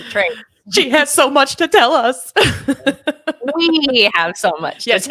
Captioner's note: chuckles; laughing